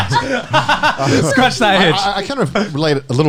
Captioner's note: laughing